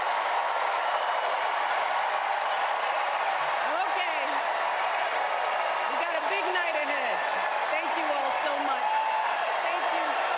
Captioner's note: applause